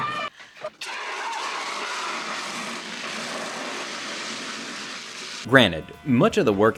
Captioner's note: all shouting; fire extinguisher whooshing